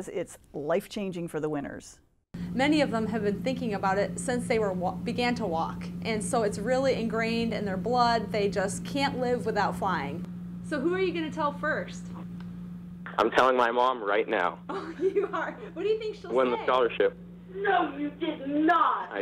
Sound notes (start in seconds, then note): 14.7 laughing; 17.9 mother On Phone Speaker